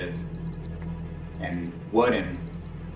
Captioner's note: device beeping